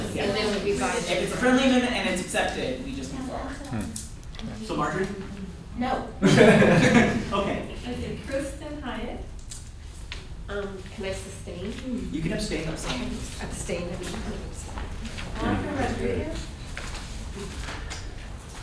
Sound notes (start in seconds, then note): 6.2 laughter